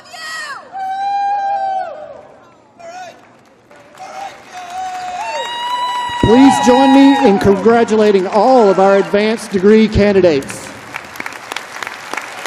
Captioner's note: applause